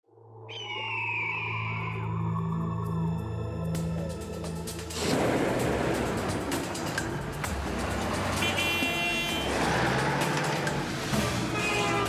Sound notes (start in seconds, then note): 0.5 eagle screeching; 1.1 dramatic music; 8.0 car horns honking